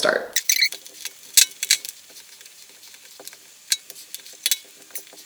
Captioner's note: flip flops squeaking